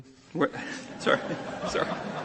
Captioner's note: laughter